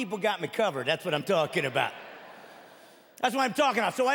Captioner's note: chuckling